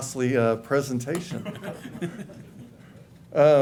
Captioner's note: laughter